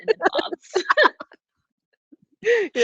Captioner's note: all laughing